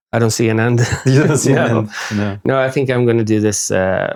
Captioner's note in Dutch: lacht